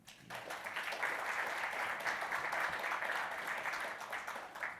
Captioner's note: audience applauds